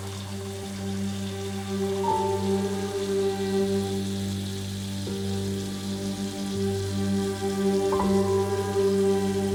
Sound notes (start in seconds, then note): 2.5 somber music continues; 2.5 water gushing